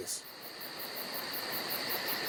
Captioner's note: night sounds